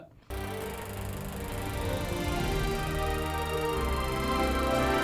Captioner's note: sweeping, dramatic music; film reel rattling